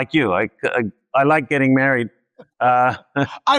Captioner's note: laughs